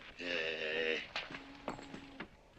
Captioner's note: grunting